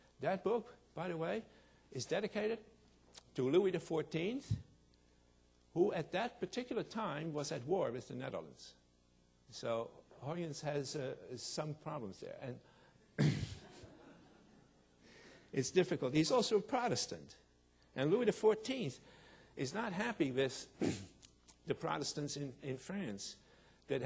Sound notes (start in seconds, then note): 13.1 throat clearing; 13.7 audience laughing